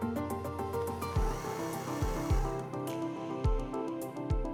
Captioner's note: telescope whirring